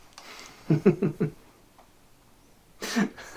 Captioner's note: laughing